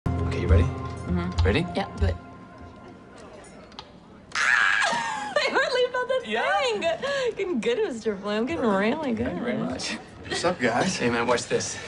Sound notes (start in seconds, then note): 4.4 laughs